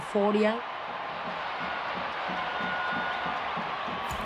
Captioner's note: crowd cheers